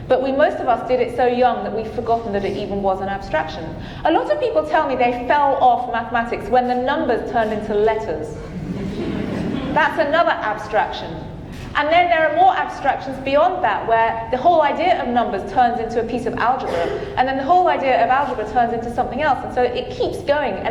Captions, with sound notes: But we most of us did it so young that we've forgotten that it even was an abstraction. A lot of people tell me they fell off mathematics when the numbers turned into letters. (audience laughing) That's another abstraction. And then there are more abstractions beyond that where the whole idea of numbers turns into a piece of algebra. And then the whole idea of algebra turns into something else and so it keeps going.